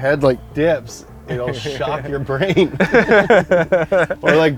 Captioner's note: both laugh; laughs